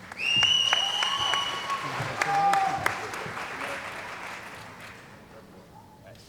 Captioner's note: cheering & Applause